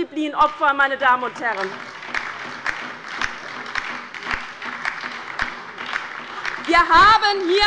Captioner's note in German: Beifall bei der LINKEN und der SPD